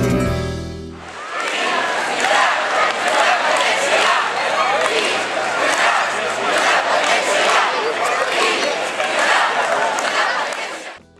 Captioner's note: catalán